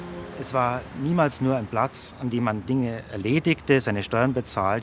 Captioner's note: speaking German